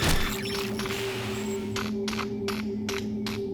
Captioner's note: electrical buzzing